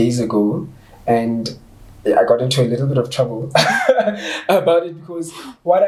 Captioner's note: laughs